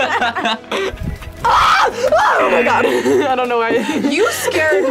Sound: both laugh; screams; laughs

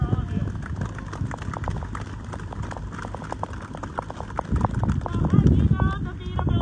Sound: audience claps

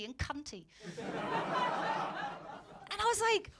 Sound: laughter

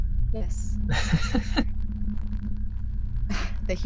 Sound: chuckles

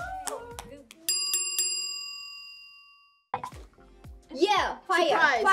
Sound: bell dinging

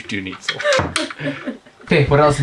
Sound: both laughs

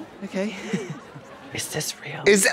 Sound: Katya laughs

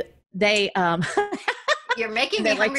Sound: laughing

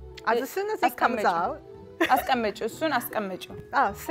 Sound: speaking Amharic

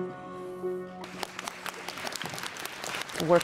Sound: applause

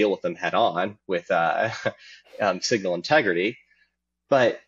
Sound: chuckling

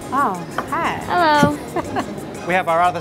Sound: girl sfx

